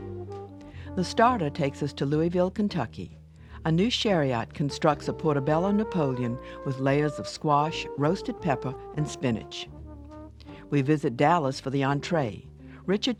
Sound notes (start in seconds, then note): 1.4 voiceover